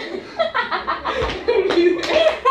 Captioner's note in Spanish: Risas